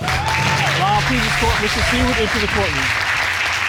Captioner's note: audience cheering and applauding